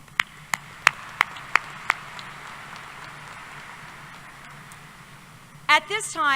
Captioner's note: applause